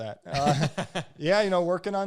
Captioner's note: both laugh